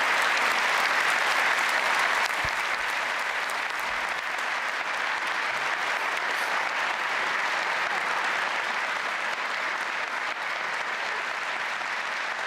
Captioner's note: applause